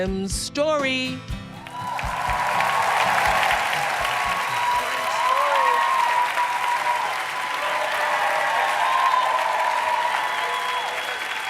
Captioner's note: cheers and applause